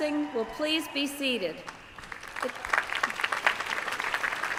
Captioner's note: applause